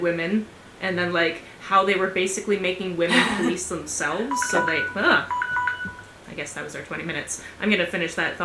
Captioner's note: alarm goes off